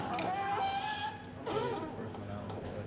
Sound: door creaks

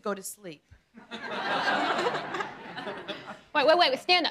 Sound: laughing

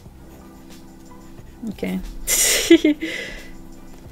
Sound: laughs

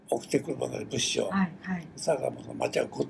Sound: foreign language

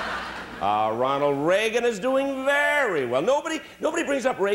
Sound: laughter

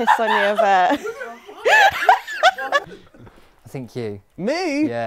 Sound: people laughing

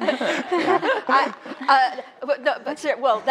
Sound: laughter

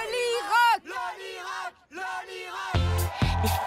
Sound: all chanting

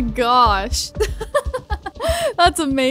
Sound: giggling

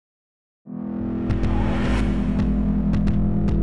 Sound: mysterious etherial whooshing

